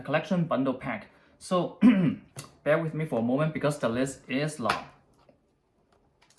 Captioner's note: ahem